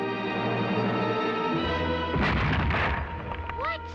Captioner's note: thunderous crash